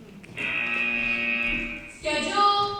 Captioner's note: buzzer